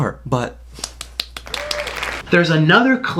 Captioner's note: claps